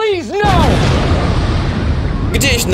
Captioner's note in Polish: boom!